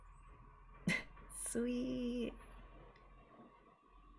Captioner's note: laughs